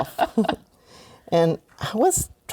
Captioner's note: laughter